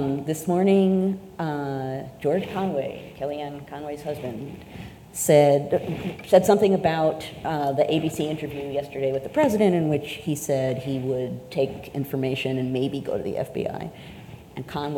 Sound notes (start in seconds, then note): none